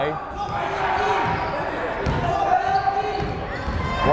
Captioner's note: yelling